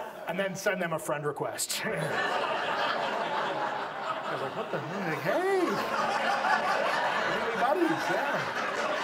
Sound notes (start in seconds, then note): 4.4 audience laughs; 7.6 audience laughs